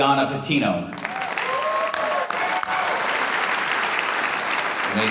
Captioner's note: audience applauding